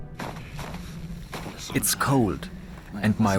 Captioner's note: in German